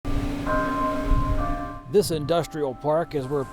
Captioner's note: bells chiming